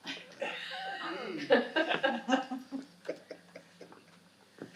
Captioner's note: audience laughing